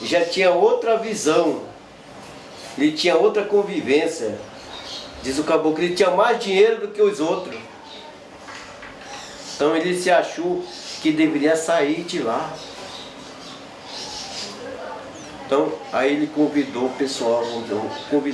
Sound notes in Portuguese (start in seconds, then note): 14.1 pássaros cantando